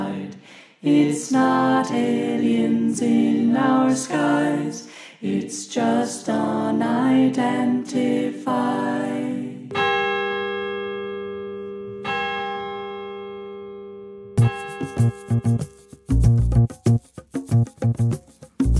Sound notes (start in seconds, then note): 9.1 bell tolling